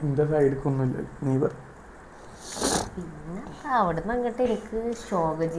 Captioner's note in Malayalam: ചീറ്റുന്നു